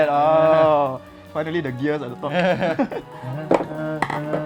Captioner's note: clicks